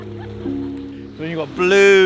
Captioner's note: gentle music; laughs